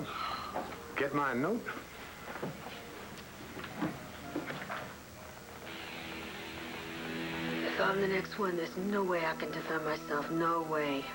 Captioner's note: rae sighs